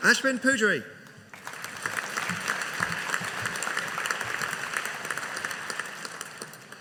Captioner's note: audience applauding